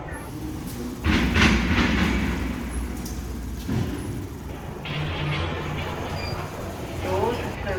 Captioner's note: footsteps on metal